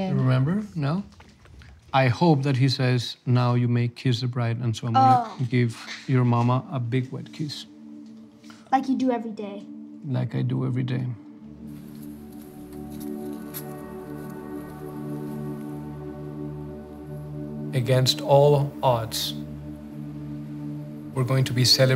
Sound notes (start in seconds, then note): 11.5 sand crackling; 11.5 solemn music